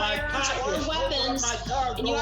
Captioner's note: shouting indistinctly